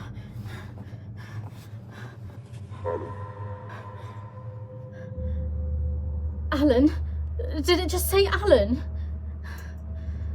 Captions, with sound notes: - [Ghostly Voice] Alan. - Alan? Did it just say Alan?